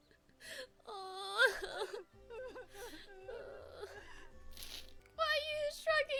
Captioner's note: both crying